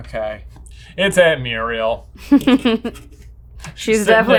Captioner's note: laughing